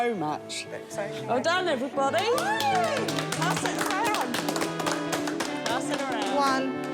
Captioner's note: applause